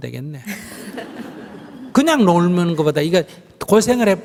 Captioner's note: questioner/Audience Laughter